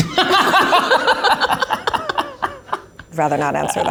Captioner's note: laugh